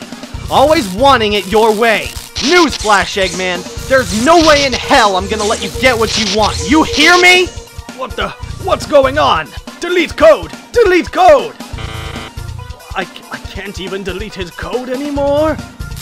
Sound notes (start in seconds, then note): 11.8 beeping